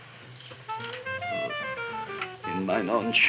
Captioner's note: Gravis groans